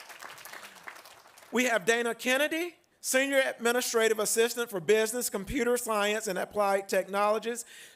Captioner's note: applause